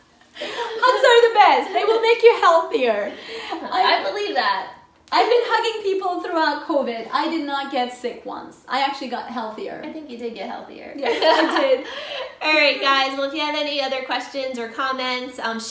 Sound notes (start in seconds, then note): 11.0 loughs